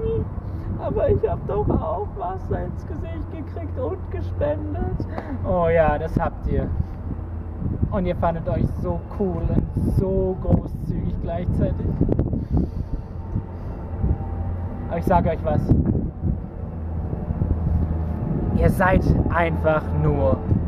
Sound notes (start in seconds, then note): 4.9 sob